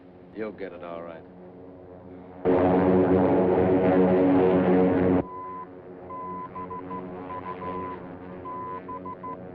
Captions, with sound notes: You'll get it, all right. [BEEPING]